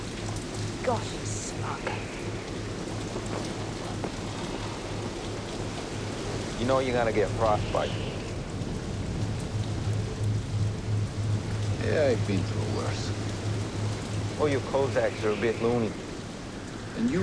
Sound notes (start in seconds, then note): 1.9 rain pattering; 1.9 wind whistling